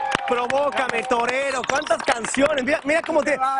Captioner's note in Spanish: aplausos